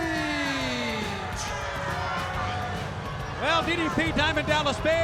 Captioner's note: crowd cheering